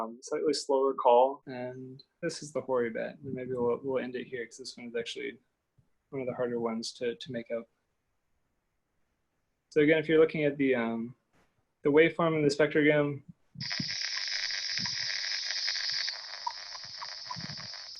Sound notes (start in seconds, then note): 13.6 hissing